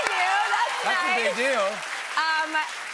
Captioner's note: cheers and applause